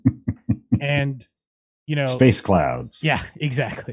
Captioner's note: laughs